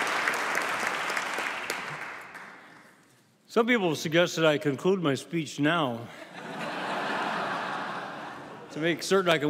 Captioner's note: applause